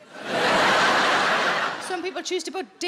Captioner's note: audience laughing